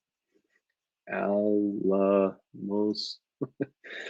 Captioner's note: chuckles